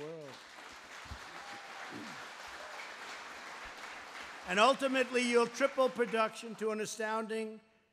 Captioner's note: applause